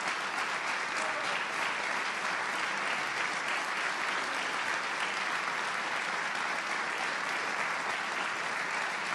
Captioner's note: applause